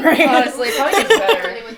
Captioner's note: laughs